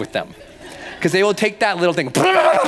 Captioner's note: laughing